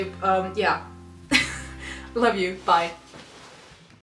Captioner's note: laughs